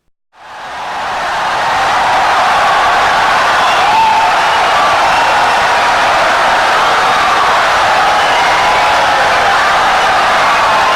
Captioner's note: wild applause and cheering for 17 seconds